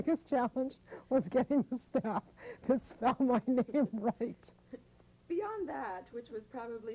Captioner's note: laughter